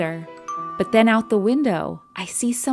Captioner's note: doorbell chimes